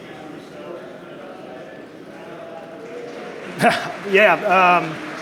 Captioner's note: crowd murmuring drowns out audience member; laughs